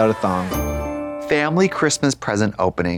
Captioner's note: bright chime